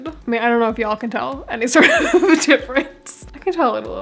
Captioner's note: laughing